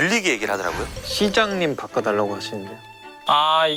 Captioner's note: talking to someone nearby while on the receiver